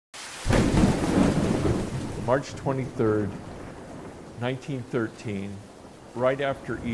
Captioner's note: thunder rumbling